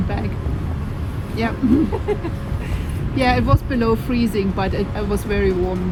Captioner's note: laughs